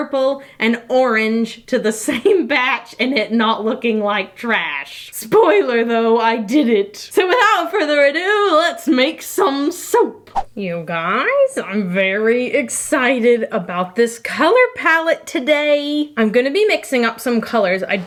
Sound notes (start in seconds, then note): 10.3 loud swipe